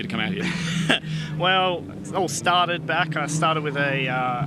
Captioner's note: laughs